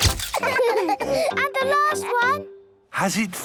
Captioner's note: all laughing